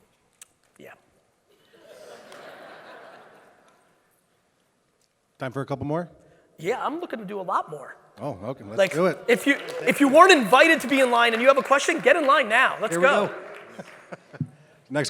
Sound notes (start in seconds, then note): 1.9 audience laughing; 13.9 laughs